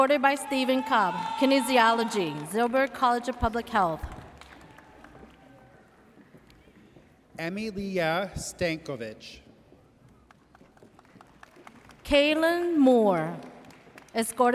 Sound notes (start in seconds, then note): 10.3 audience applauds